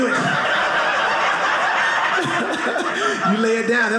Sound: audience laughing

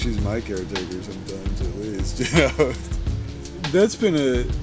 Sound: laughs

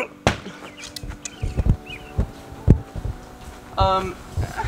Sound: ball hitting board

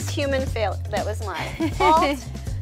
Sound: laughs

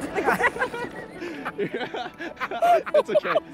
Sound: both laugh

